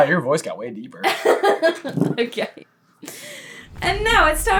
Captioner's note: laughing